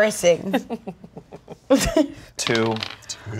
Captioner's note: laughs